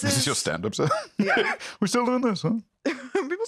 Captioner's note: laughs